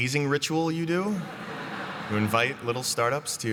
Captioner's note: laughter